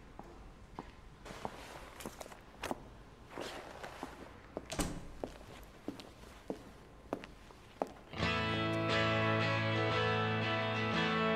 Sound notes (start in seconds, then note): 4.7 door clicking; 8.1 slow music